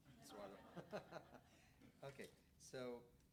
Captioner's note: audience laughs